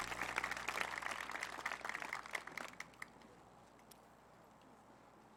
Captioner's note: cheering; applause